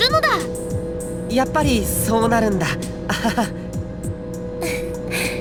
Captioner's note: awkward laugh; light chuckle